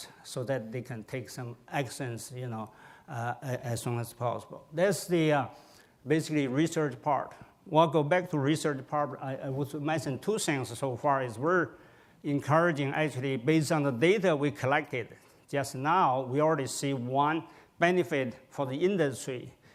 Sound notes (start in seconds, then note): none